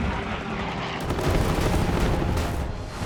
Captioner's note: gunfire